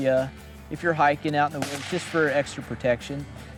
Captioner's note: gunshot blasting